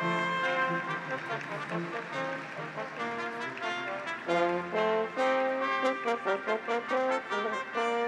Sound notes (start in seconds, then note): 0.0 audience applauds; 0.6 graduates cheer